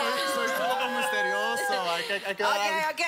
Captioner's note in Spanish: Exclamaciones